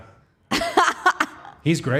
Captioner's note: Liv laughing